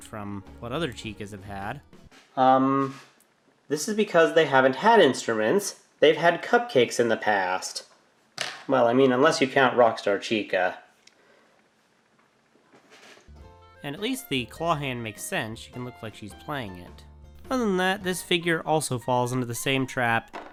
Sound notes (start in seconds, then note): 8.4 something falls